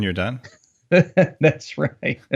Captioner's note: laughs